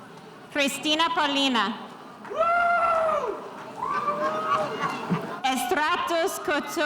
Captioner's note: spectator cheering